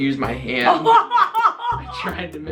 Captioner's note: laughing